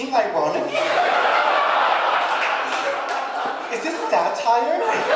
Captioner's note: audience laughing